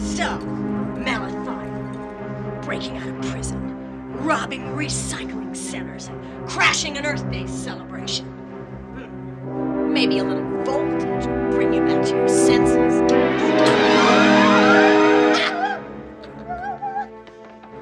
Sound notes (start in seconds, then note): 13.3 electrocuting; 15.3 laughing